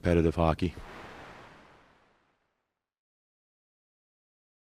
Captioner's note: logo whooshing